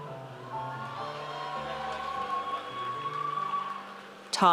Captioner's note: audience cheers